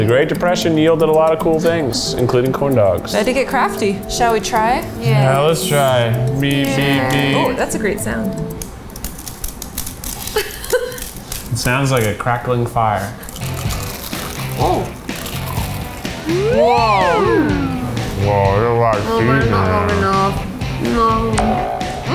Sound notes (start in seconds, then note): 9.6 corn dogs crackling; 13.0 corn dogs crunching; 13.6 upbeat music; 15.9 electric slider whirring